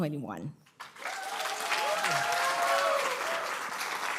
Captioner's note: applause